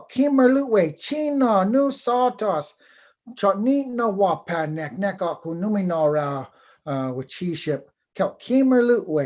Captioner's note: foreign Language